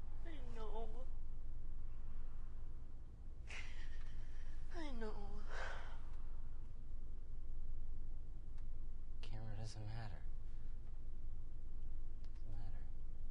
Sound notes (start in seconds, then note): 5.3 sighs